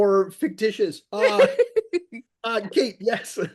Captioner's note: laughs